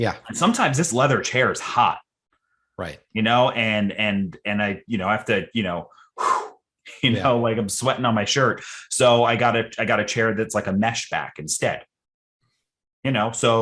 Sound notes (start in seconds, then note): 5.9 exhales